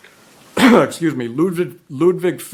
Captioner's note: coughs